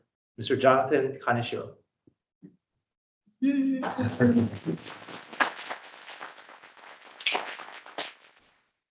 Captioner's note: applause